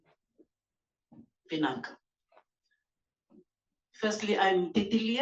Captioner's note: non-english